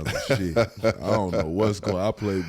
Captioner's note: Eric laughs